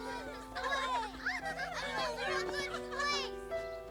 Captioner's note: laughing